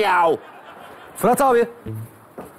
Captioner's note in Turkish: Gülme efekti